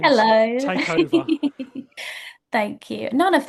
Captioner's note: laughs